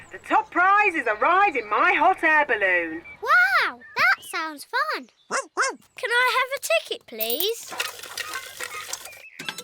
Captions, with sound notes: The top prize is a ride in my hot air balloon. Wow, that sounds fun! (BARKS) Can I have a ticket, please?